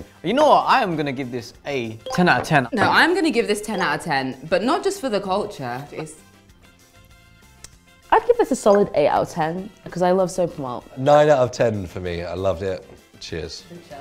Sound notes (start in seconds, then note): 7.6 lips smacking